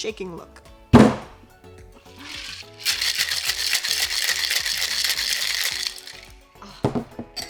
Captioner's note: ice clanking